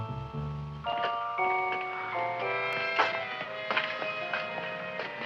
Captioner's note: feet thumping